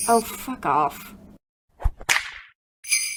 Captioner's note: whip cracks; jingles bells